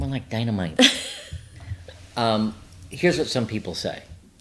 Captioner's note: laughs